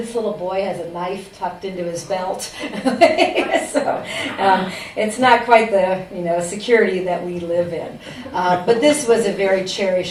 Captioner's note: laughs